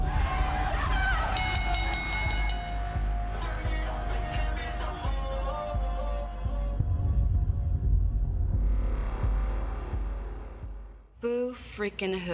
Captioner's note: bell ringing